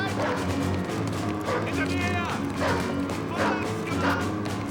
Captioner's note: speaking german; dog barking